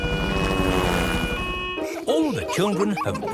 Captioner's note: siren wailing